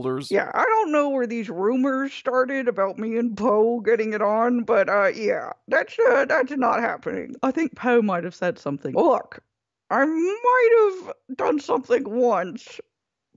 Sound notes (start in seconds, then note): none